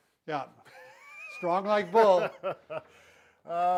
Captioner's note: chuckles